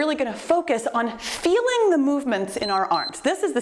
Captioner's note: timer beeps